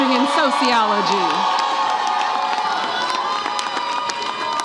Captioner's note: audience cheers